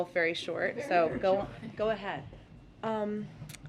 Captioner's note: laughter